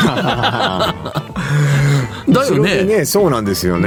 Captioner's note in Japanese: 笑い